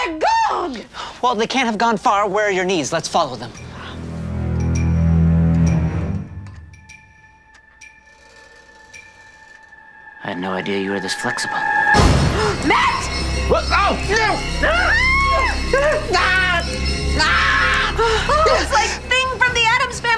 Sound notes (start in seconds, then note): 0.9 gasp; 3.9 dramatic music; 12.2 gasps; 14.9 yelling